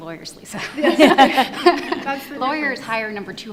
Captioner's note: panel laughs